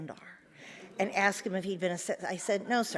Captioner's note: audience murmurs